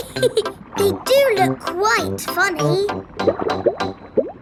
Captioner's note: laughs